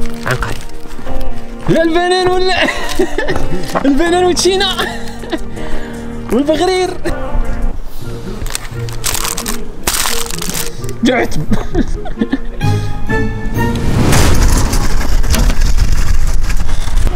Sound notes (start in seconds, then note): 10.9 ضحك